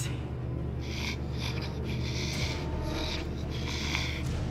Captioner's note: Jessie snarling